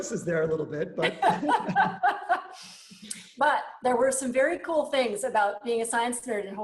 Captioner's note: laughs